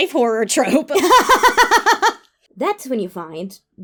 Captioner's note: laughs